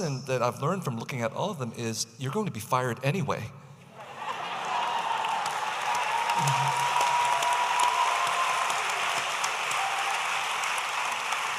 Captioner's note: audience applauding